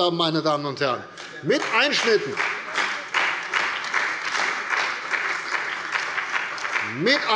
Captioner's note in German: Beifall bei der CDU und dem BÜNDNIS 90/DIE GRÜNEN